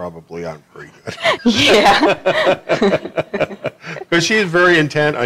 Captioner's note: laughter